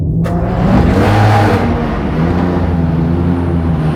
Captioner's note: car starting